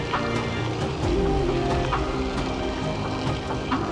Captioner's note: sighs